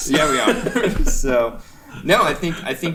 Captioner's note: chuckling